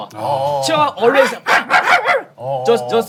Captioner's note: chihuahuas raise its guard with loud barking